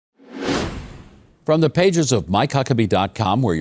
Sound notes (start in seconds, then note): 0.2 wind whooshing